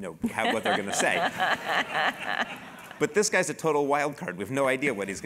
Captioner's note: laugh